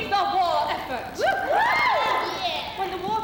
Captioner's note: women cheer